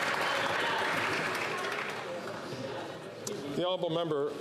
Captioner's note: some Applause